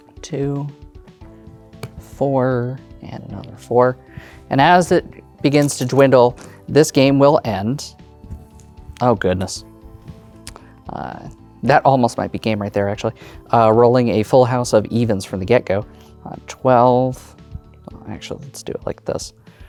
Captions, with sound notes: 2, 4, and another 4. And, as it begins to dwindle, (dice rattling) this game will end. (dice rolling) Oh, goodness. Uh... that almost might be game, right there, actually. Uh... rolling a full house of evens, from the get-go. Uh... 12. Actually, let's do it like this.